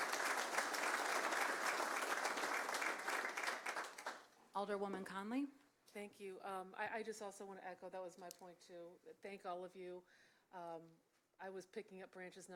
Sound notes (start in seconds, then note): 4.3 applause